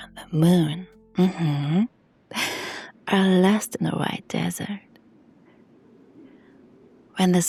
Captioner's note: sighs and gasps